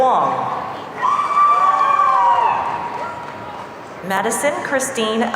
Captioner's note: audience cheering